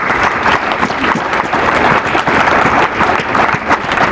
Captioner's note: applause